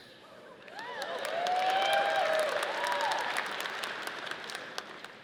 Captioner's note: audience cheering